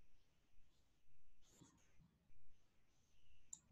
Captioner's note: mouse clicking